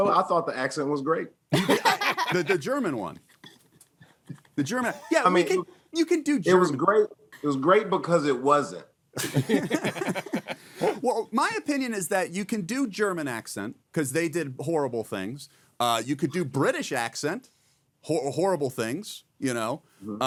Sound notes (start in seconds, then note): 1.5 all laughing; 9.2 laughing